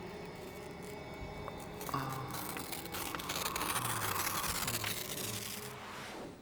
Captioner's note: sighs